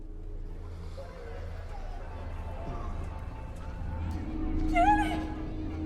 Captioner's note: voices whispering